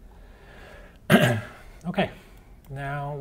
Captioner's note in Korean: 기침